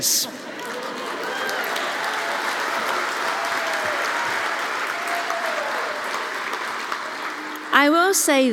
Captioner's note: laugh; applause